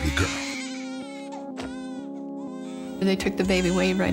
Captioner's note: baby crying